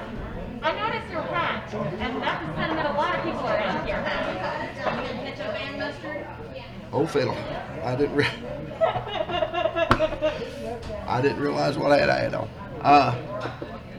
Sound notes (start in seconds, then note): 8.7 laughter